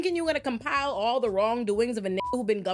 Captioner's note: beep